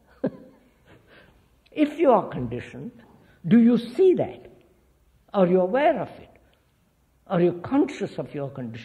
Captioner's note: laughs